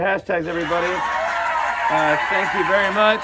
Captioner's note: recorded cheers and applause